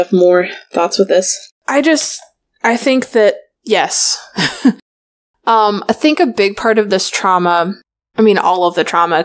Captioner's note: laughs